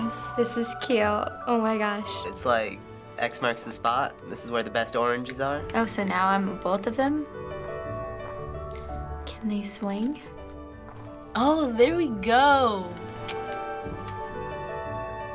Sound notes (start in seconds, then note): 12.8 tsks